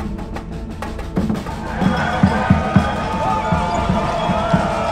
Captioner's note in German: Rufe, Schreie